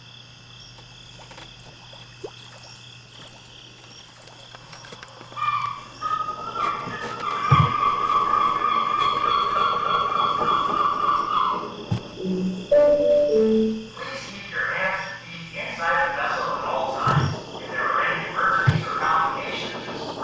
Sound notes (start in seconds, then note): 5.8 seagull squawking; 12.2 speakers chime